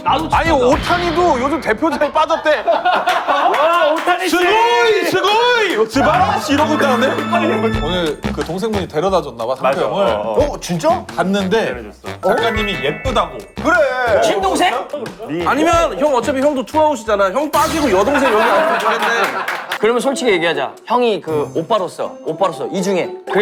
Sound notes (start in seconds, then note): 6.0 haha